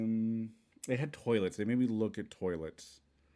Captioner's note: smacks lips